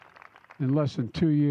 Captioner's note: applause